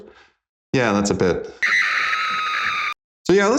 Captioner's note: horrified scream